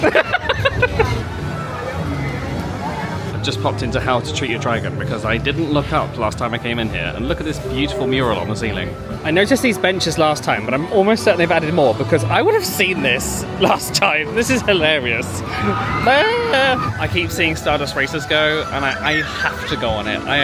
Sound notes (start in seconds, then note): 0.0 laughs; 15.2 people on rollercoaster scream; 15.5 screams